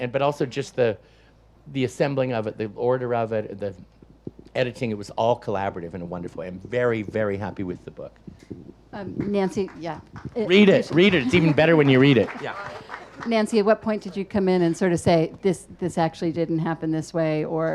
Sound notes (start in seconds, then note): 9.2 audience applauds